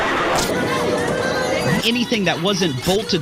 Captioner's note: horror music and screams; group chattering